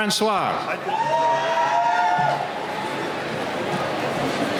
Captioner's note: cheering